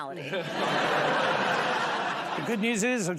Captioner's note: laughter